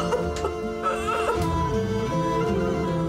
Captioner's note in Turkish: ağlıyor